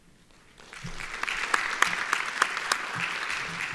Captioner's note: applauding